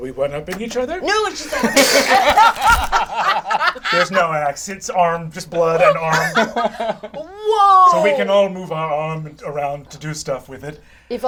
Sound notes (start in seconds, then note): 1.3 all laugh; 1.4 imitates bones cracking